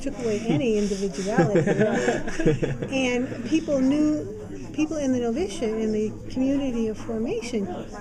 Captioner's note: laughter